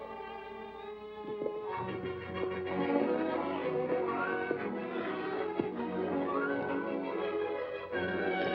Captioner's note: hooves trotting; music turns upbeat; music turns dramatic